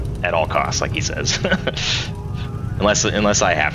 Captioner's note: laughs